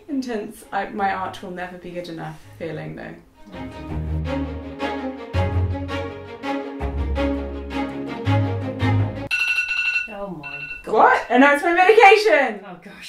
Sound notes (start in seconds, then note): 3.9 urgent cello music; 9.3 alarm rings